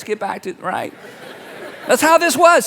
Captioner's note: congregation laughing